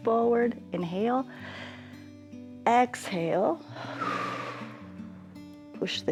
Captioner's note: inhales; exhales